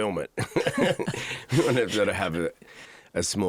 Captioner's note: both laugh